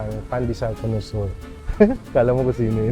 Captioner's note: laughs